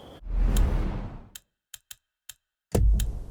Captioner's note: whoosh; ticking